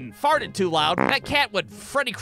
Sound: frrt!

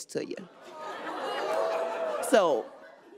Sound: audience chattering

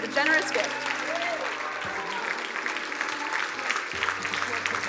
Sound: crowd cheering and applauding

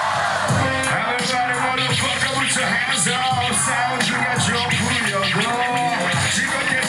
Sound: foreign language

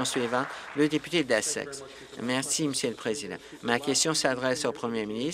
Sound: applause

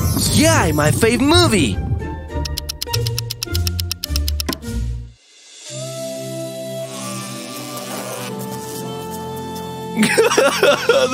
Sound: crying

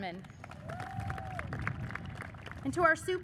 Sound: audience cheers and applauds

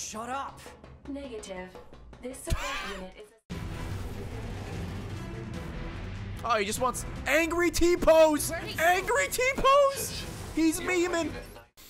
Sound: laughs

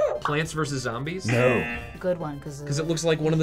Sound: buzzer barks; buzzer

